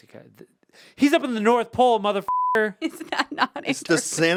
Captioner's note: beep